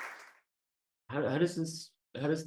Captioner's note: audience Applause